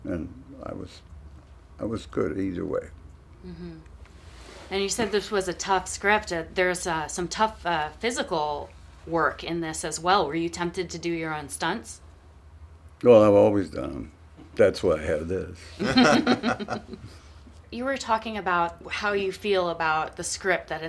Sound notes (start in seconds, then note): 15.7 laughter